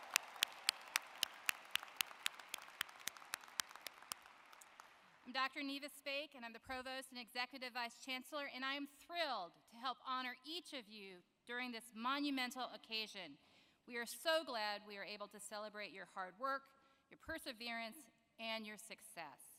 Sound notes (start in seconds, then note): 2.1 applause